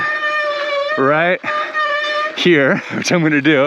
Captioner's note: bike squeaks